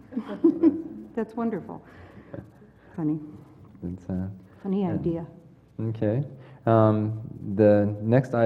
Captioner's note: laugh